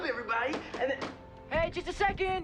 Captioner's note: knock on door